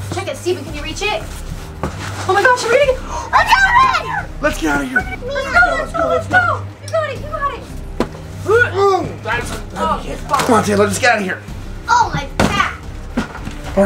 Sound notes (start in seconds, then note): 8.4 groans